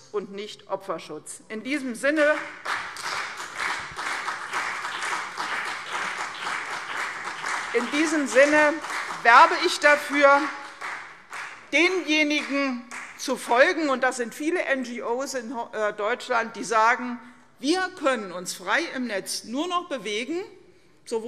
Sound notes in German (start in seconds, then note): 2.0 Beifall CDU und vereinzelt BÜNDNIS 90/DIE GRÜNEN